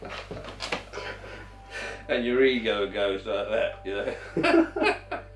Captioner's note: laughs